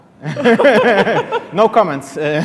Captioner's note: laughing